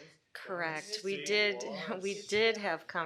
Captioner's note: chuckles